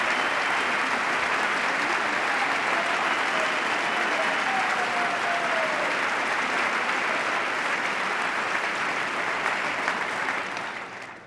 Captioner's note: applause